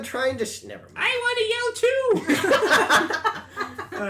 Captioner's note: laughter